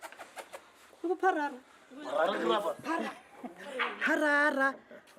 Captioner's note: speaking xhosa